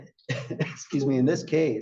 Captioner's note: cough